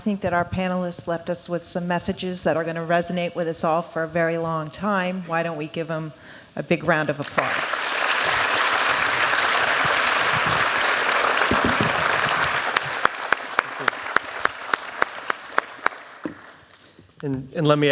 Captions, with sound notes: >> OK. WELL, I THINK THAT OUR PANELIST LEFT US WITH SOME MESSAGES THAT ARE GOING TO RESONATE WITH US ALL FOR A VERY LONG TIME, WHY DON'T WE GIVE THEM A BIG ROUND OF APPLAUSE. [ APPLAUSE ]